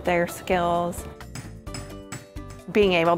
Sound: hammering metal

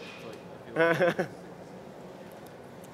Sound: laughter

